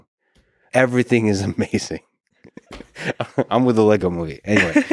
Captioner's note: laughs